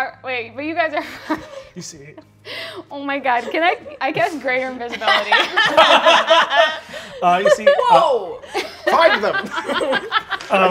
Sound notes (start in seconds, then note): 5.3 all laughing